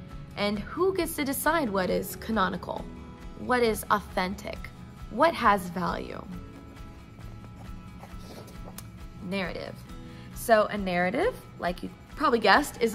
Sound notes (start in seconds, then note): 8.0 page flip